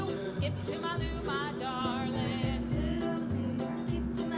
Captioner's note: air fryer still running